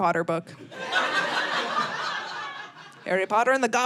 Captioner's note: audience laughing